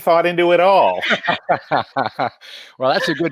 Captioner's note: all laughing